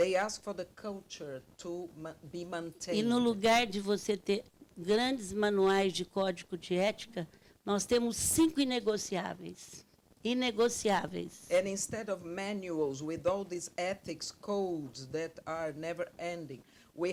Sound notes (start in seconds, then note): 3.3 speaking Portuguese